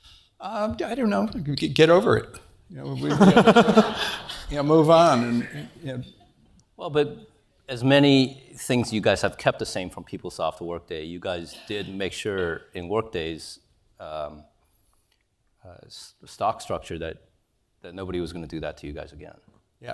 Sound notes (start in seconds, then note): 2.9 laugh